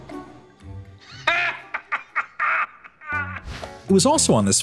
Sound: laughs

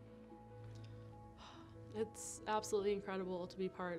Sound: sighs

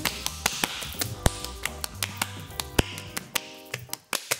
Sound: hands clapping

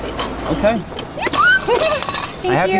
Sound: emma joyfully cheers

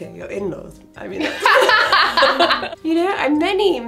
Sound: laughing

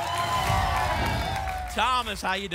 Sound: applause and cheering; whoosh

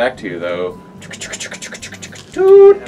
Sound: groans

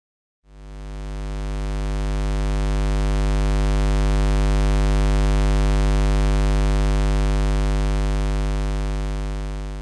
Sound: square wave sound

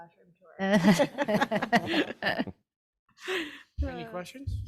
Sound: group chuckles

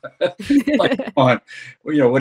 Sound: laugh

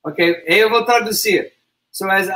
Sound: speaks portuguese

